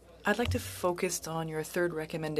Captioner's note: speaking French